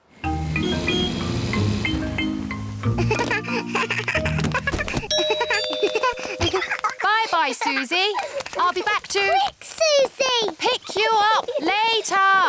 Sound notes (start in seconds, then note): 0.2 toots horn; 2.9 giggles; 5.1 rings doorbell